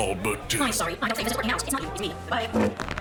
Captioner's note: fast speaking